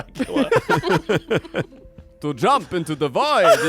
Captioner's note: everyone laughs